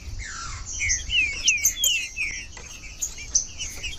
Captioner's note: trinca ferro cantando